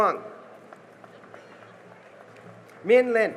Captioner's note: cheering and applause